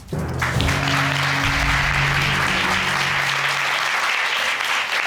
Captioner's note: crowd clapping